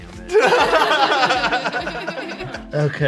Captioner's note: everyone laughs